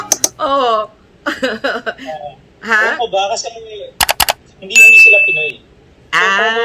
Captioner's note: laughter